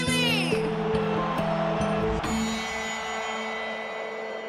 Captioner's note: cheers & applause